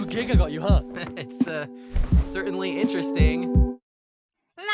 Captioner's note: laughs